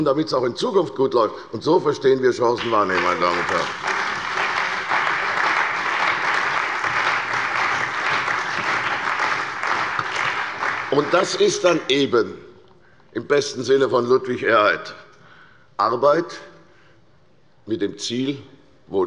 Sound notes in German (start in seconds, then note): 5.2 Beifall bei der CDU und dem BÜNDNIS 90/DIE GRÜNEN